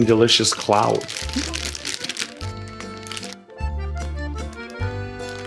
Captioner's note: plastic crinkles